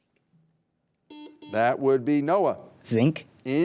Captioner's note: buzzer buzzing